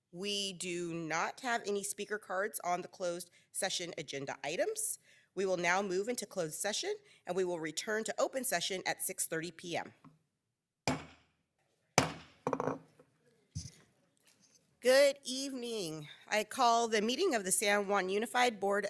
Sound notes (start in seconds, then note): 12.0 gavel clanks